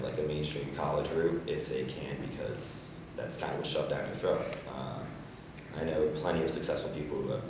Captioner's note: none